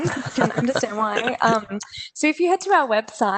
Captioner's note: laughter